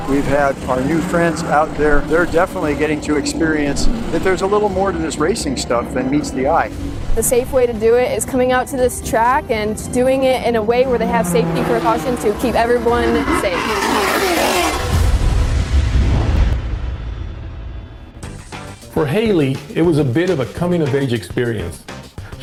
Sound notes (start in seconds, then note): 13.7 vehicle engine roaring; 18.2 exciting music